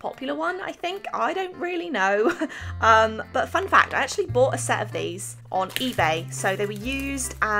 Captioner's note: laughs